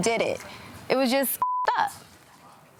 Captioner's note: beep